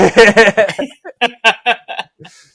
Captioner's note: both laughing